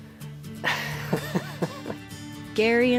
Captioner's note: laughing